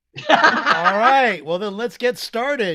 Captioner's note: laughs